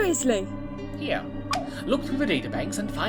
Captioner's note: TARDIS beeps